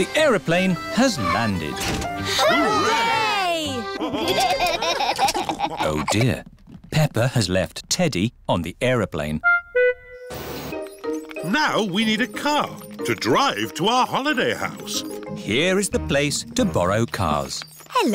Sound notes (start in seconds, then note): 3.9 laughter